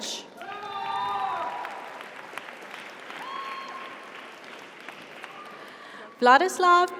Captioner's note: audience applauds; audience cheers